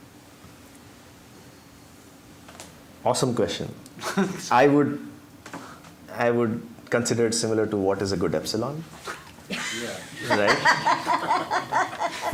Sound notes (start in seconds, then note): 4.0 laughter